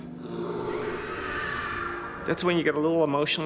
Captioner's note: screaming